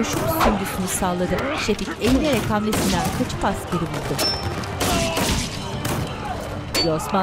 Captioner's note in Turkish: Dövüş sesleri; Silah sesleri; Dövüş sesleri